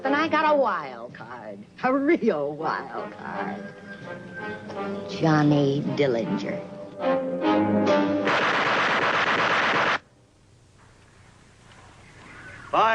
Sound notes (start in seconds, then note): 8.2 gun shots firing